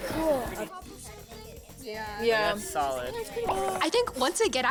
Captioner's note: crew chatting